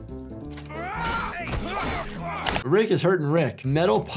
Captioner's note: lively dramatic music; Rick screaming